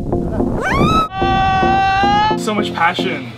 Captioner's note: screaming